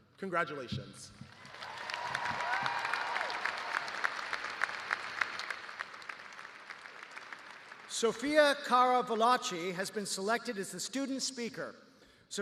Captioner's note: cheers and applause